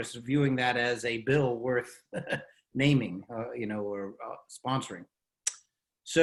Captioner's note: chuckles